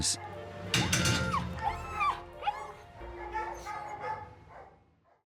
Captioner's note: dog whines